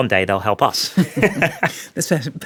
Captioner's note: laughs